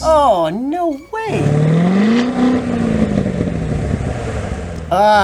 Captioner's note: engine revs